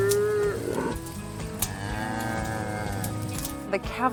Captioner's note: cow mooing; calf bleating